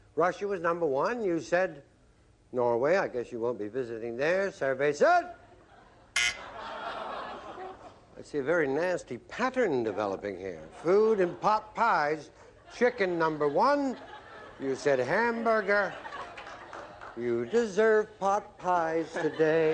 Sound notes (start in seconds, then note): 6.2 buzz; 15.5 laughter; 17.2 singing